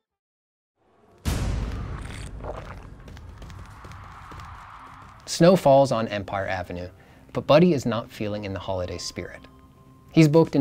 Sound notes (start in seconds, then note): 1.2 a bang, gurgling noises